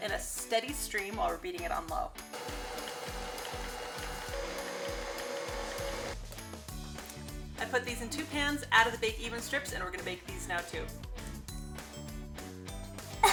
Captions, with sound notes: in a steady stream while we're beating it on low. (mixer whirring) I put these in two pans , add the bake even strips and we're going to bake these now too. (laughs)